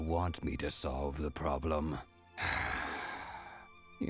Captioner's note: sigh